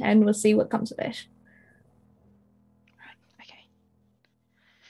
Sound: whispers

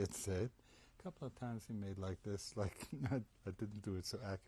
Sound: laughs

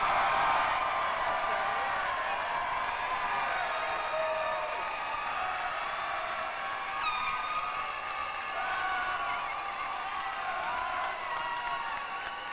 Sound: cheers and applause

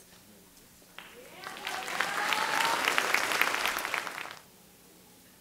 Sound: audience clapping

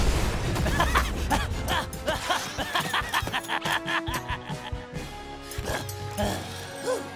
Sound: both laughing

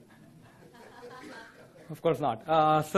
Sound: audience laughter

